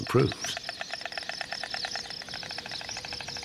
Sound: storks nattering

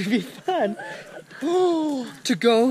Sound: gasps

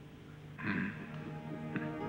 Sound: man grumbles

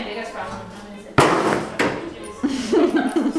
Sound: loud bang; laughing

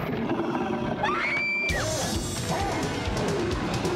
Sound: screams

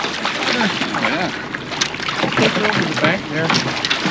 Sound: fish splashing

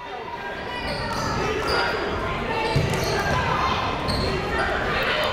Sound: people shouting in the crowd

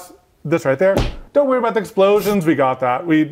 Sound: graphic thudding

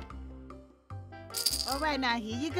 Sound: rattles

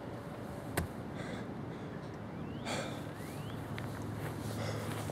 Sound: exhausted breathing

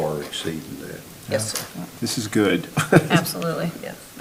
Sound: laughs

